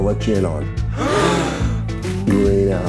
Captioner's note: crowd gasps